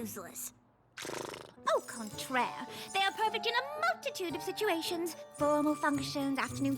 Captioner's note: snort